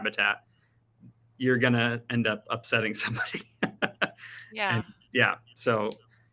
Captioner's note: laughing